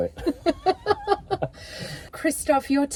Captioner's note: both laughing